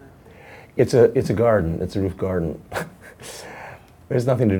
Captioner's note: laughs